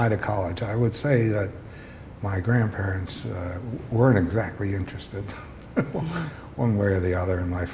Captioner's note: chuckle